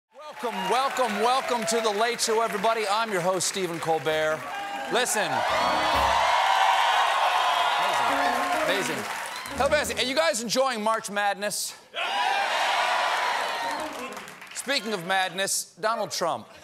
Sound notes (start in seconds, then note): 5.8 cheers and applause